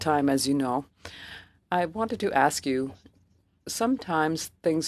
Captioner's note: speaking French